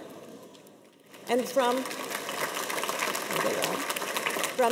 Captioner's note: audience applauds